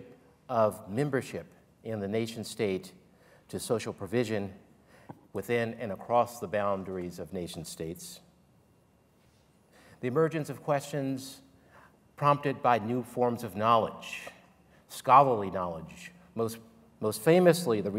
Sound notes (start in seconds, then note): none